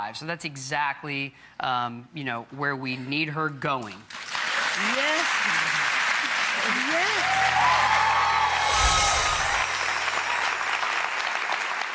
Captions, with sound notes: So that's exactly where we need her going. (audience claps) Yes, yes! (shimmering)